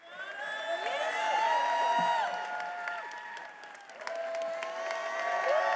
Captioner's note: attendees applauding and cheering